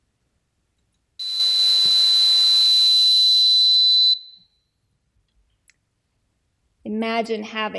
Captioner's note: buzzing